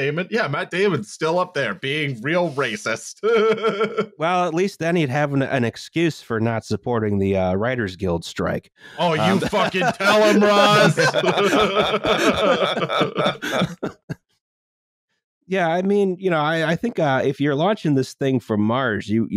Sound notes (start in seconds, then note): 2.3 laughs; 12.8 laughter